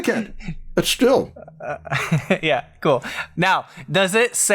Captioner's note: laughs